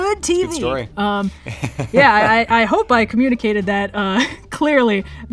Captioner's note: laughs